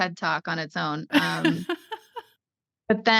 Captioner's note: laughter